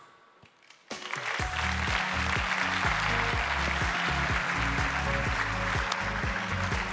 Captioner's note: audience applauding; upbeat music